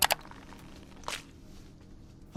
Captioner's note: neck pops